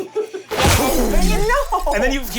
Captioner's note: laughing; crashing